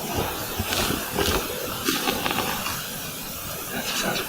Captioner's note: low growling